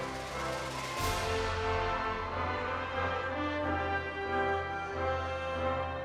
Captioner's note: audience applauding and cheering